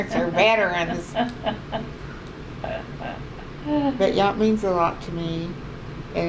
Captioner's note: laughs